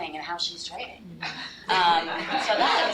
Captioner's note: laughter